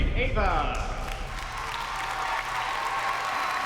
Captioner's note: cheering